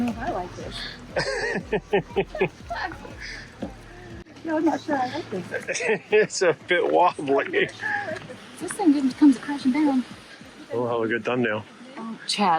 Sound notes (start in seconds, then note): 0.7 laughs